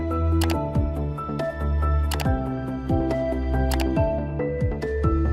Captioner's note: bright music; mouse clicks; bright music